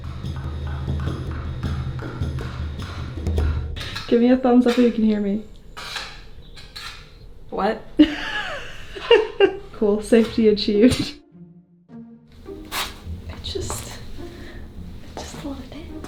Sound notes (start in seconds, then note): 0.1 hammer thudding; 5.9 metal rasping; 8.0 cameraperson laughing; 12.0 gentle music